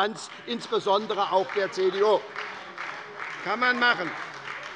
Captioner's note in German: Beifall bei der SPD - Widerspruch bei der CDU